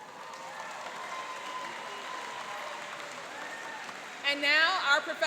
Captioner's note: applauding and cheering